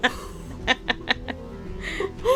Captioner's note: laughter, gasps